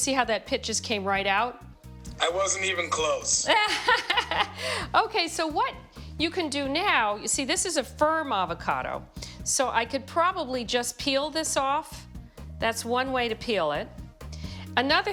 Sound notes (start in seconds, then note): 2.1 laughing